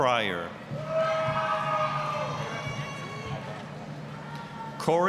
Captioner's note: applause, cheering